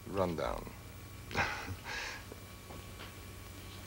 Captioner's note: chuckles